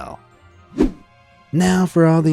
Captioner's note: image whooshing